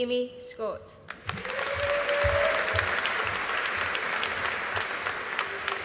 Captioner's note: audience applauding